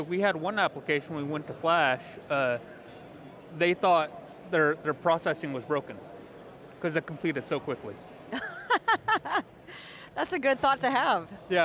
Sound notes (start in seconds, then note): 8.3 laughing